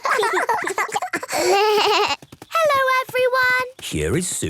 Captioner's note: laughter; bleating